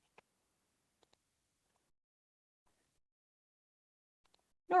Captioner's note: mouse clicks